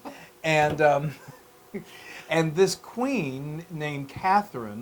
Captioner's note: laugh